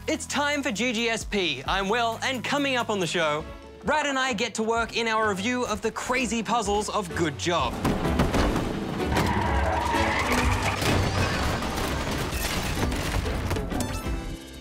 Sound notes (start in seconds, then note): 8.5 tyres screech; 12.3 smashing